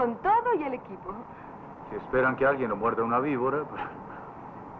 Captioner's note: chuckles